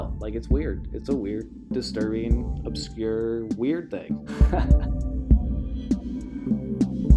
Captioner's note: laughs